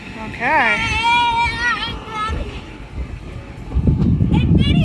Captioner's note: boy yelling